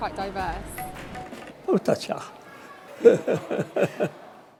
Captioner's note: laughs